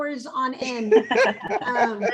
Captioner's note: laughter